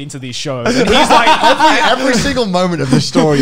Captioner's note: laughing